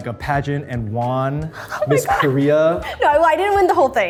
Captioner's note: Arden laughs